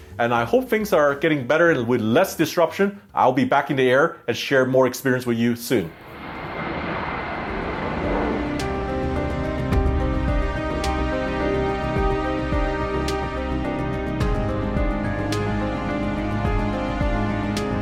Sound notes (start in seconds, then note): 6.0 engine revving; 7.7 melodramatic music